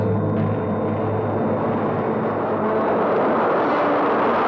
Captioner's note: whooshing